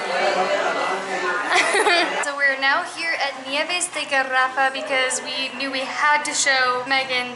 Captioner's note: laughter